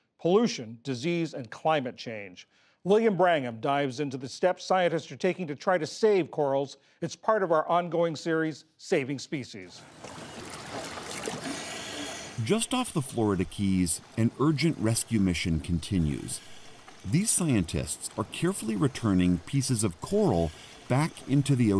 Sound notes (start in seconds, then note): 13.1 voice-over